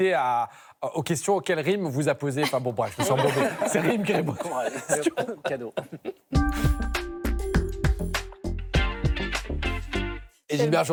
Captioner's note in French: rires